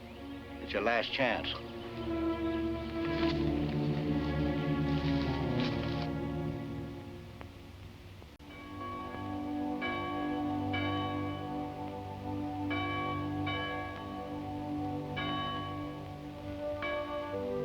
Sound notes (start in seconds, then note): 8.4 bells dinging; 8.8 light orchestral music